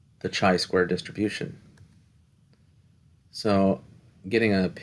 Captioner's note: no Speech Detected